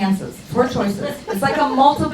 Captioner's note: crowd laughs